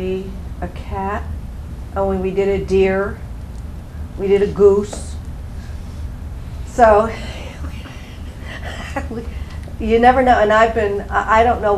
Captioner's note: laugh